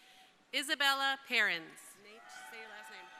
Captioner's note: crowd cheering